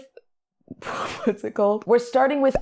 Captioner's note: laughs